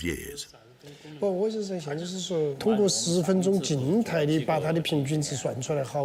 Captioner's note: speaking foreign language